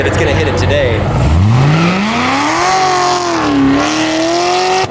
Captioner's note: car engine roaring